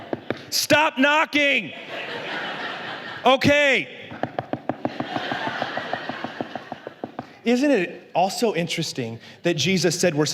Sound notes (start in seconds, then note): 1.6 la congregación se ríe; 4.1 golpea rápidamente